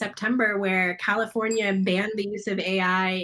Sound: bell dings

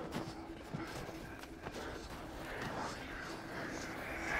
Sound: person breathing

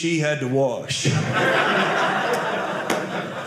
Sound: audience laughing

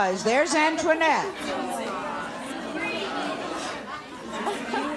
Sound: audience chattering

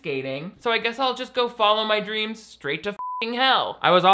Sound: beep

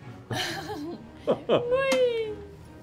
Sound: laughing

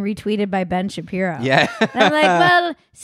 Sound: laughs loudly

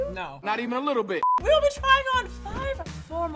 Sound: beep

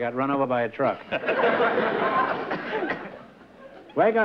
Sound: laughter

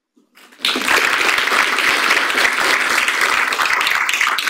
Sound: audience applauds

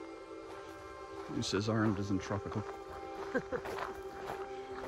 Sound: laugh

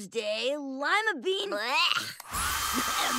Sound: gagging

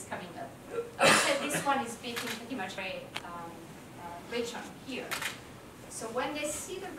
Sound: cough

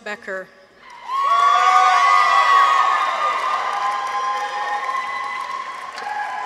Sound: people cheer; audience applauds

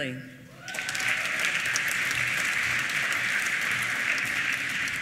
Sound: applause

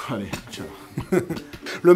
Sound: laughs

